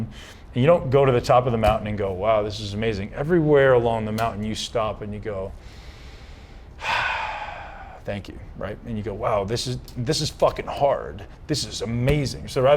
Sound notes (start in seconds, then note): 6.4 sighs